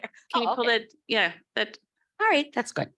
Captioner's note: laughs